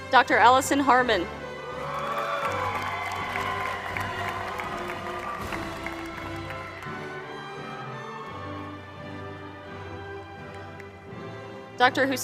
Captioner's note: applause